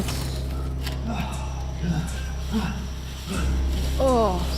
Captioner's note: AJ grunting